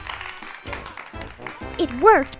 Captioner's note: applause